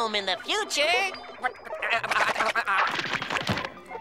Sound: stammering

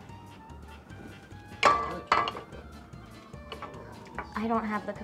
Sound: quiet upbeat music; clattering of crockery

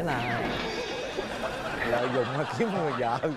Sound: laughing

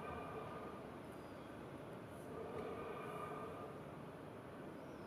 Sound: rhythmic breathing continues

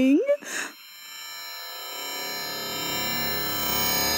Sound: electricity buzzing

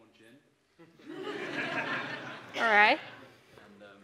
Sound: audience laughs

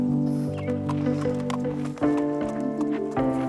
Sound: sounds of trotting

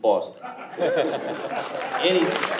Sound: laughing and applauding

